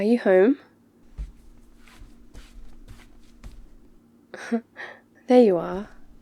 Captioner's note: footsteps